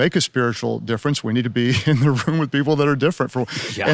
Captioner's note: laughing